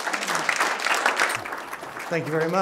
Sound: applause

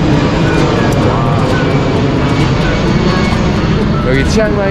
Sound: sound of airplane flying

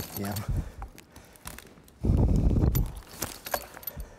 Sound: jangling

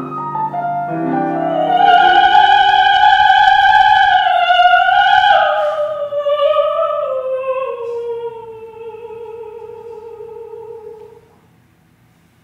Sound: A sung sigh, like Nana's

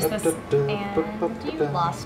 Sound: Jason humming

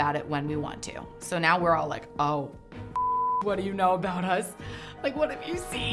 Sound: beeps

